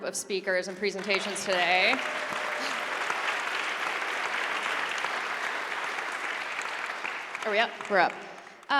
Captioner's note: applause